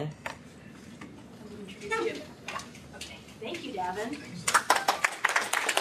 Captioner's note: �applause�